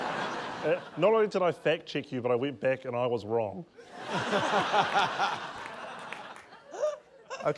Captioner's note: laughter